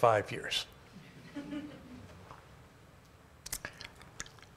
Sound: laugh

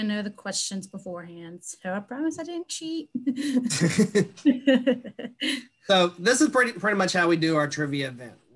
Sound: laugh

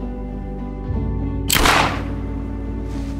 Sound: gun fired

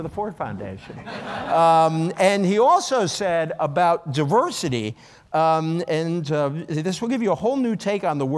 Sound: laughter

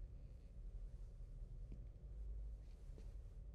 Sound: none

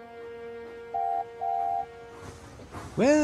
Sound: duck whistles

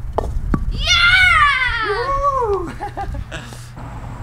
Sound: cheering

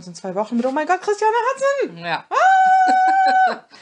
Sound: laughs

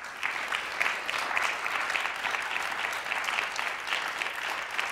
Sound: applause

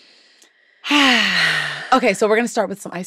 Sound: sighs

